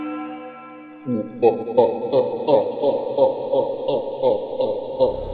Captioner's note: sinister laughing